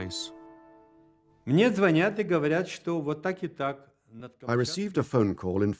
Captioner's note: speaking Russian